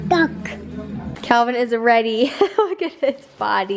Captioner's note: chuckles